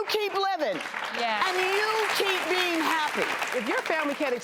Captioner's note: applause